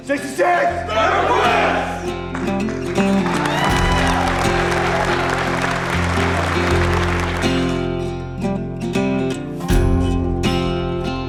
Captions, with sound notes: 66! - Never fails! (crowd applauding) (bright twangy music)